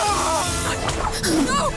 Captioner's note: soldier screaming; rats squealing